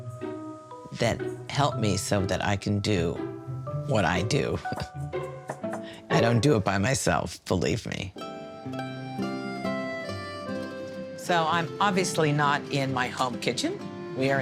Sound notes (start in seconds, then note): 4.6 laughs; 8.1 bright soft music